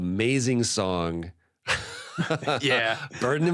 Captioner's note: laughs